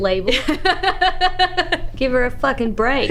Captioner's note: laughs